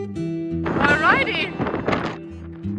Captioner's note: wind blowing